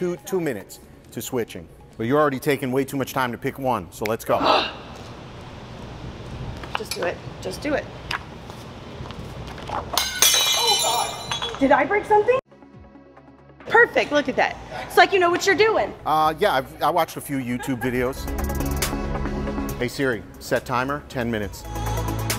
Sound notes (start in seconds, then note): 5.7 groans; 10.1 metal clanking